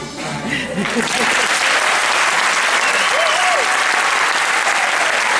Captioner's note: applause